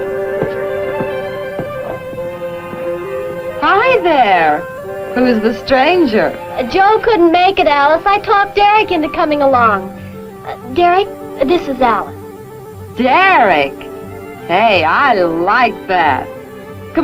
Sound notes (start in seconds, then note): 3.7 sloshing